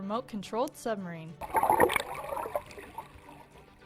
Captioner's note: water bubbling